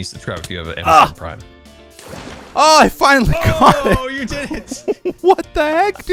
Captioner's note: laughs